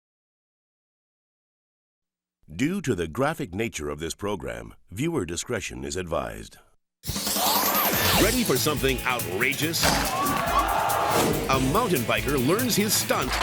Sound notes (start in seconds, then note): 7.0 upbeat instrumental music; 9.8 crocodile snaps; 9.8 crowd gasps